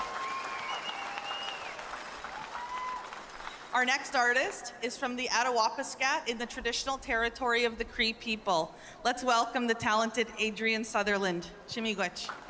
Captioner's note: cheers and Applause